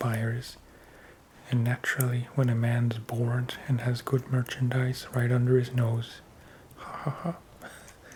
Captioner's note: ha ha ha